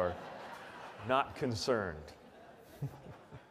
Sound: audience laughs; laughs

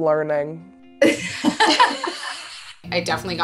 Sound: laughing

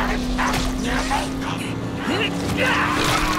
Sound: laughing; grunting

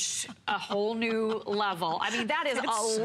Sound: laughter

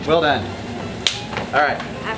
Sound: hands clap

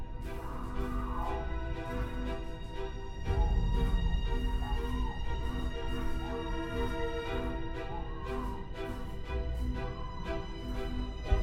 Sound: muffled screams

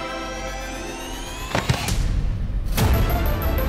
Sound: thud

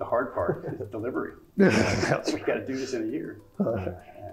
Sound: laugh

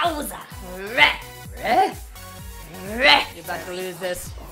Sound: growling

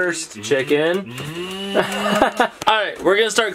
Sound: imitates engine noise; laughs

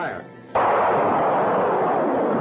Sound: explosion

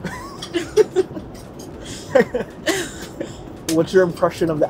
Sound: laughs

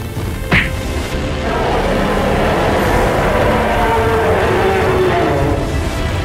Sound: Kyuubi is roaring

